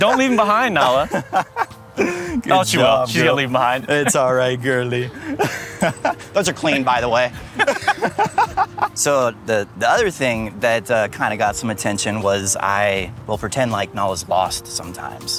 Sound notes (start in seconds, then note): 7.7 laughs